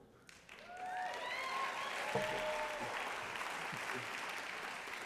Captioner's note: applause